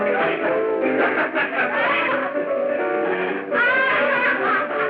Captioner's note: laughing